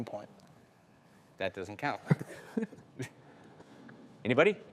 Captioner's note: laughing